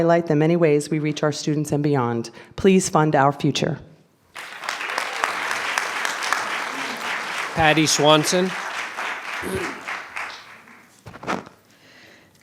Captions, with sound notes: to highlight the many ways we reach our students and beyond. Please fund our future. (clapping) - Patty Swanson.